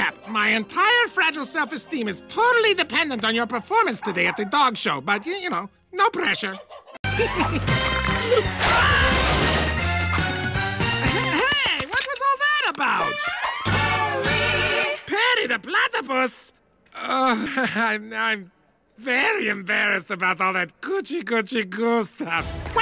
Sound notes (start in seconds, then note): 8.0 bone cracking sounds; 8.5 screams